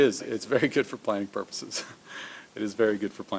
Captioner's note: laughs